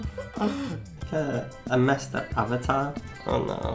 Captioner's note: laughs